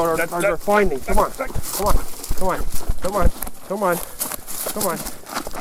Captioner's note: dave makes struggling sounds